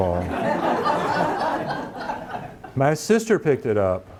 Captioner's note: audience laughing